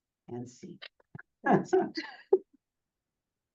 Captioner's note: chuckling